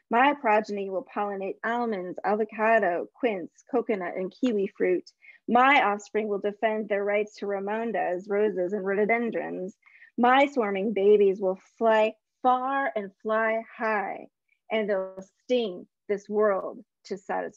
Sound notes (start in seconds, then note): none